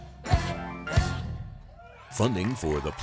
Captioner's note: applause